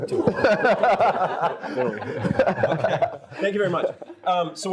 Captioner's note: all laugh